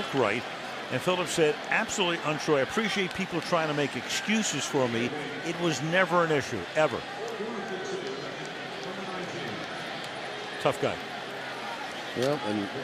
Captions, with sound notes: He just didn't look right. And Philip said, absolutely untrue, I appreciate people trying to make excuses for me, it was never an issue, ever. [pa announcement] Tough guy.